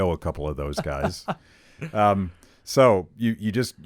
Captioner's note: laughs